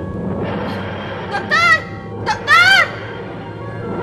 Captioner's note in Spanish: grita